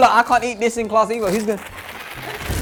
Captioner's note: bag makes shaking sound; fire effect sound; classical music plays